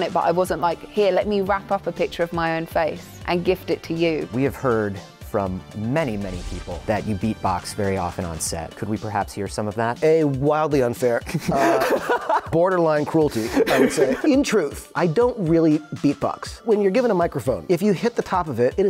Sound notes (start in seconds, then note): 11.2 laughter